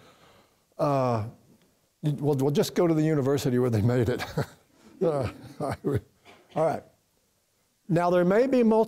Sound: laughter from then the audience

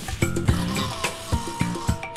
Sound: snoring

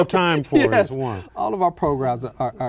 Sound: laughter

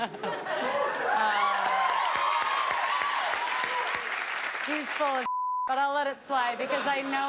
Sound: cheers and applause

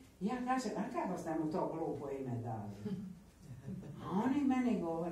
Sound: laughs

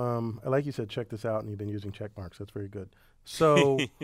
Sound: laugh

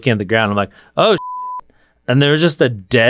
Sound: beep

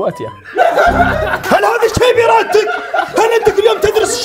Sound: laughter

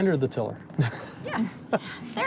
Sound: laughing

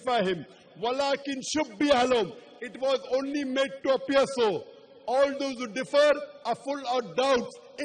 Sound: arabic phrase

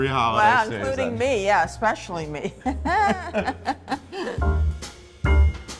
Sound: laughs

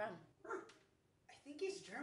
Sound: dog barks

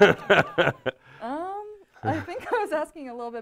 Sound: crowd laughing; laughs

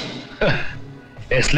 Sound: sighs

